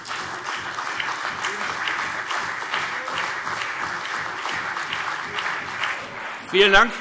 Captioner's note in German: Beifall CDU und BÜNDNIS 90/DIE GRÜNEN